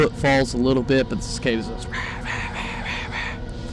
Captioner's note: mimics cicada sounds